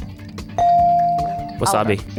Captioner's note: bell dings